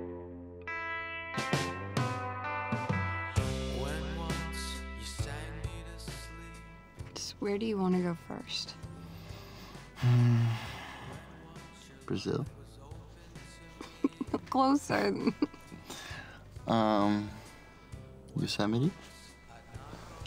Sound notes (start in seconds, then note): 8.9 exhales; 13.7 chuckling; 13.7 laughs